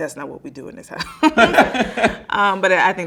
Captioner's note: both laughing